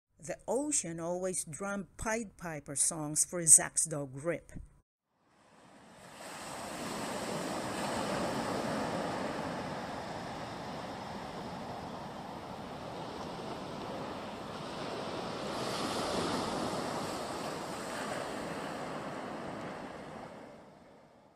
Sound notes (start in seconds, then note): 6.1 sound of ocean waves